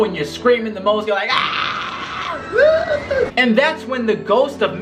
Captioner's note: screams